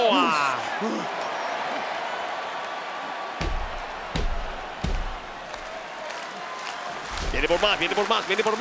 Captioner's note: applause